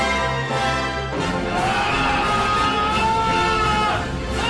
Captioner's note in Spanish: gritos rompe oídos,Por que no?